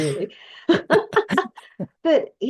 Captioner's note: laugh